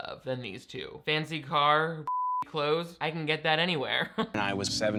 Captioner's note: beep